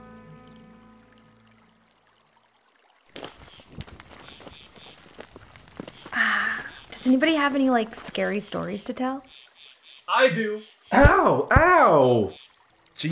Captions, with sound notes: (footsteps crunch) - Ah, does anybody have any scary stories to tell? - I do! Ow, ow!